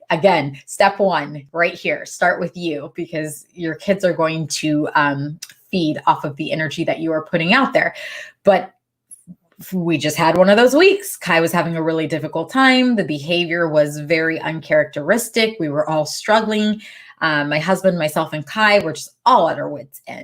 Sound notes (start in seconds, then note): none